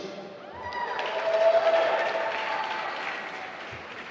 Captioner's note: applause